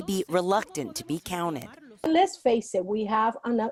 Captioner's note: speaking Spanish